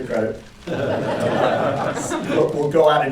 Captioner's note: laughter